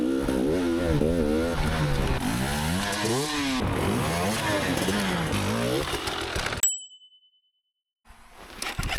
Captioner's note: ding